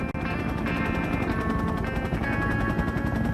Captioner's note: helicopter flying